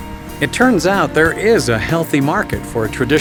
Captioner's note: voiceover